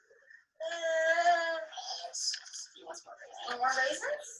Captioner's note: child whining